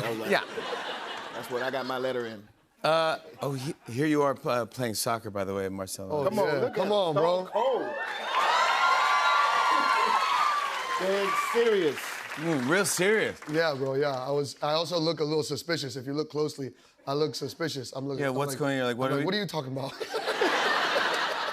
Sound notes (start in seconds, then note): 7.5 cheers and applause